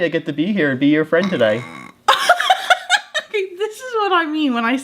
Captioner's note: burps